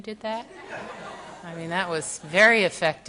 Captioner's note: audience laughs